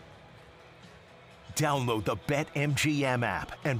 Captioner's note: cheering